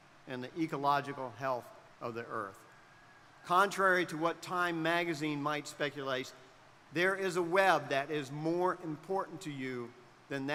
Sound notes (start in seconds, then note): none